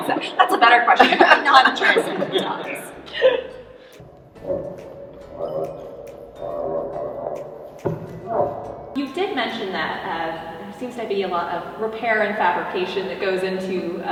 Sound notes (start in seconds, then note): 5.1 dinosaur vocalizations